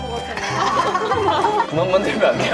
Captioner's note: laughing like a kid